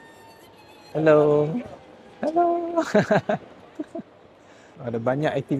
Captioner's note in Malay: ketawa